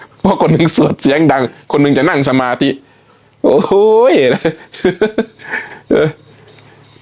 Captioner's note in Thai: เสียงหัวเราะ